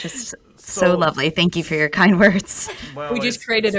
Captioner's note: laughs